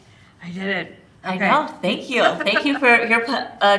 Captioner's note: chuckles